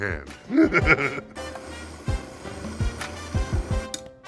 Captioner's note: laughs; blender spinning softly